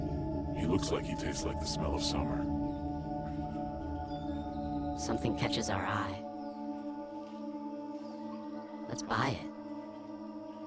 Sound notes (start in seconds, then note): 0.7 low Voice